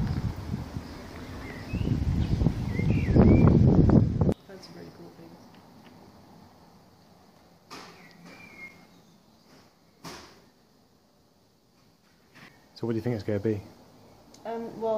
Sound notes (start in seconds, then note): 4.4 whispering